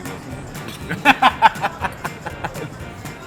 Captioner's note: laughs